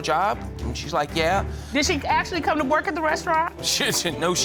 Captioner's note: spluttering